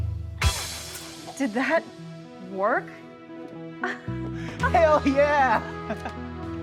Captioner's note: laughs